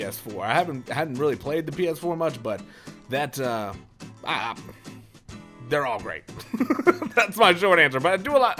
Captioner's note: laughter